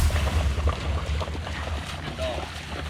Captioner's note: water splashing